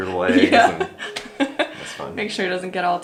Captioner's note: laughs